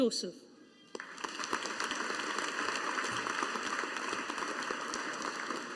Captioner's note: audience applauding